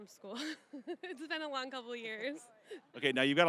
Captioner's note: laughing